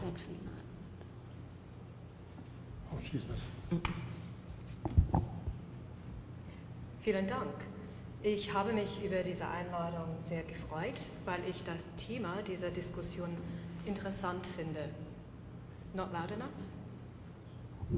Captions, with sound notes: She's actually not, there. - Oh, she's not-- - Mm-mm. (speaking in foreign language) - Not loud enough?